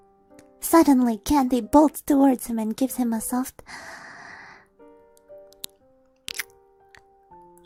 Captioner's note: soft kiss